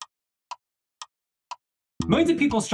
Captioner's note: clock Ticking